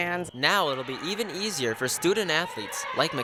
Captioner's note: voiceover